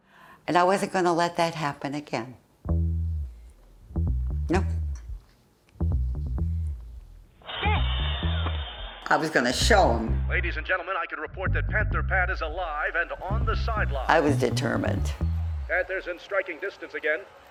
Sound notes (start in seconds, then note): 2.6 funky music; 7.5 pat